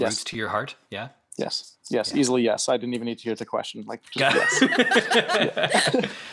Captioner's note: they laugh